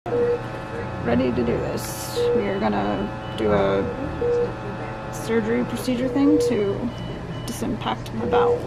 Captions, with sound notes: (beeping) Ready to do this. We are gonna do a surgery procedure thing to disimpact my bowels.